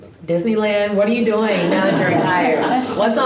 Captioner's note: all laughing